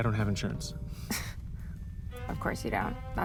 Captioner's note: scoffs